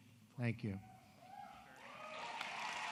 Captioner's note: applause